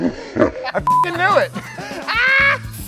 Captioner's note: beep